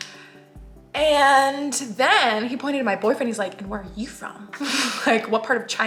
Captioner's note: laughs